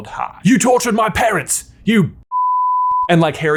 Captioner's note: beep